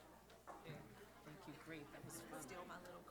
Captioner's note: chatter